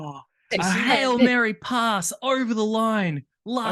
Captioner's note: shocked laugh